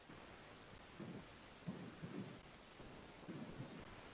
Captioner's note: white noise hissing